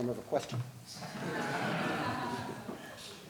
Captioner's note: laugh